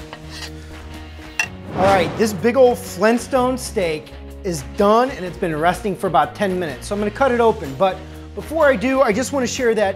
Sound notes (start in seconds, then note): 1.2 rock music; 1.6 whooshing